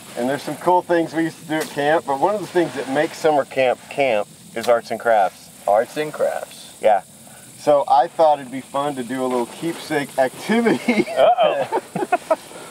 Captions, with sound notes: and there's some cool things we used to do at camp. But one of the things that make summer camp, camp is arts and crafts. - Arts and crafts. - Yeah, so I thought it'd be fun to do a little keepsake activity (laughs)- - Uh-oh.